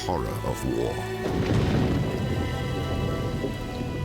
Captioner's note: thunder crashing